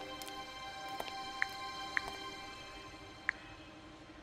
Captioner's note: Screen touching sound